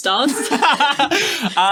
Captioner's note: laughing